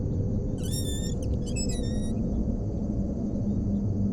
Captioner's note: door creaking